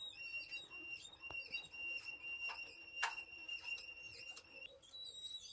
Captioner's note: scaffold squeaking